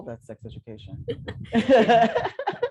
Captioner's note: laughter